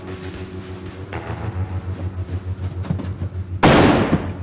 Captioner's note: gunfire